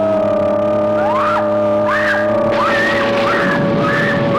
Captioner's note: screaming